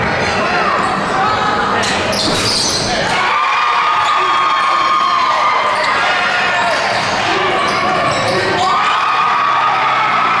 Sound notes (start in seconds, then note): 3.1 loud screaming